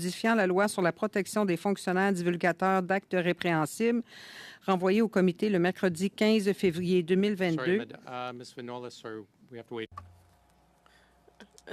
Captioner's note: speaking French